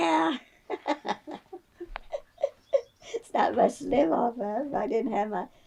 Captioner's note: laughs